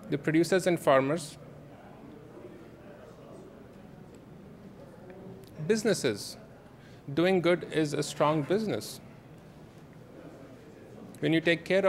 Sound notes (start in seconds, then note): none